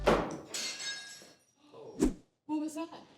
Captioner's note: glass breaks in other room